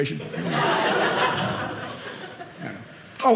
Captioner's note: audience laughing